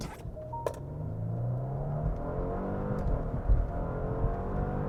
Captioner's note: car engine roars